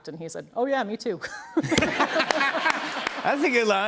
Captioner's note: laughter